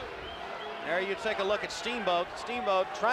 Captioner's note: crowd chatter